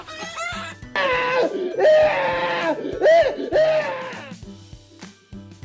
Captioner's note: the robber screams in fright